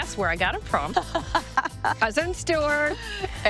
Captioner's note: laughing